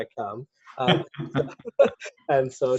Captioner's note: laughs